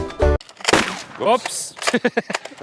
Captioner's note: pew; laughs